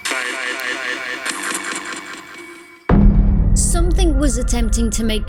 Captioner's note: portal making random sounds; suspenseful music